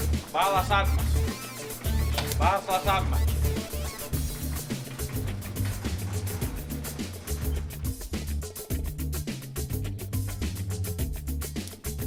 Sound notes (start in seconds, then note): 5.8 sound of garage door opening continues